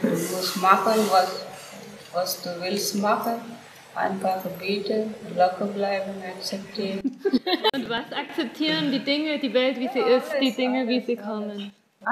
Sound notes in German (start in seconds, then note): 7.0 Lachen